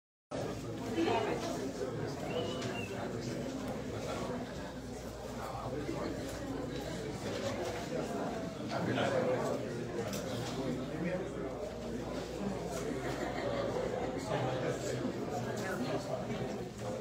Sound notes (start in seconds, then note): 0.0 indistinct chatter